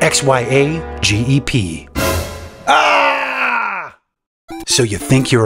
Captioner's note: screams in fear